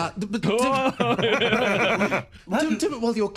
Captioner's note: laughs